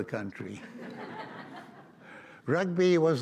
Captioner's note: audience laughs